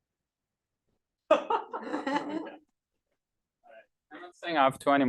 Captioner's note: laughing